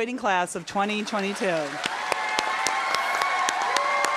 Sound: applause

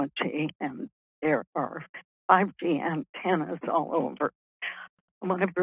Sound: murmurs

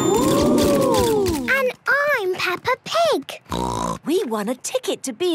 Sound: snort

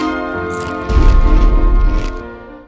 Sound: distant explosion

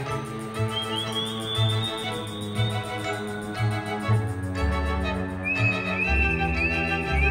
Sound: audio whistling; ceremonious music

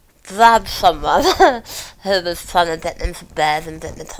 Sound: laugh

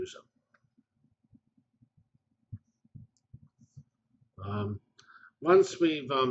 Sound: pause

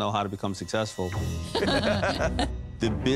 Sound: laughter

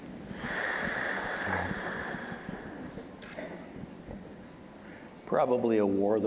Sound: deep inhale

